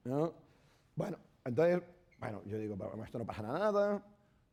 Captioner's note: speaking spanish